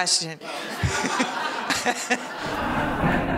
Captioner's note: laughing